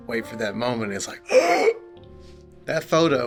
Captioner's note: gasp